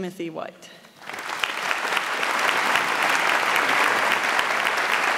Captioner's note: audience applauds